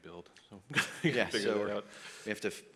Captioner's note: laughs